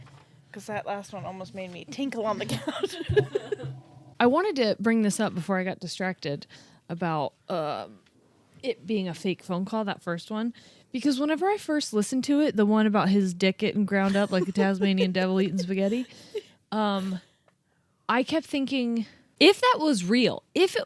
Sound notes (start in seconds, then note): 2.5 laugh; 14.0 giggles